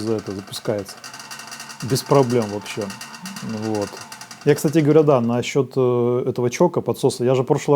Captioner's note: choke